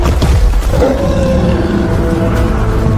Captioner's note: rumble